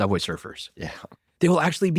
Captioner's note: laughs